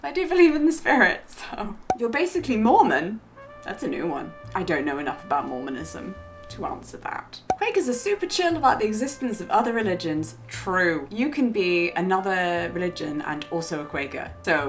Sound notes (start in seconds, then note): 1.8 air popping; 7.4 air popping